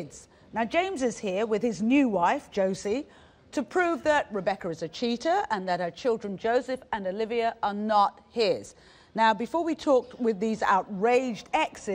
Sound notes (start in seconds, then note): none